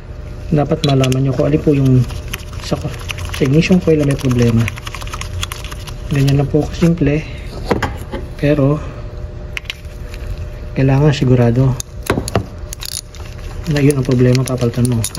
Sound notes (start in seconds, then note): none